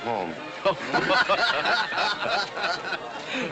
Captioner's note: laughter